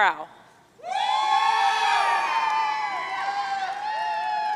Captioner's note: audience cheering